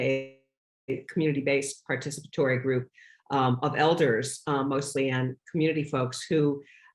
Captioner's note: distortion